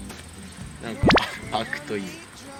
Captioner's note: laughs